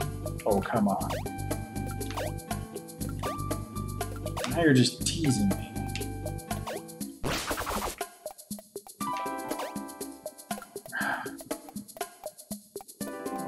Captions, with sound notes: Oh, come on. Now you're just teasing me. [sighs]